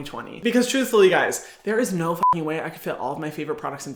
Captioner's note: beep